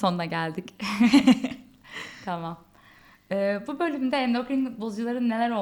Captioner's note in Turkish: kahkaha